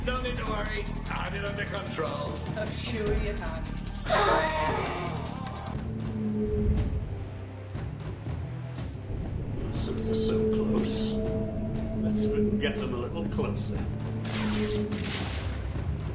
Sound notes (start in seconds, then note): 4.5 Ragtooth snorts; 6.9 slow dramatic music